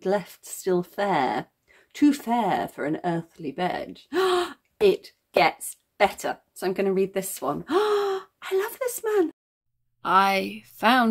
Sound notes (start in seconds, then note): 4.0 gasp